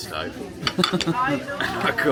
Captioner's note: laughs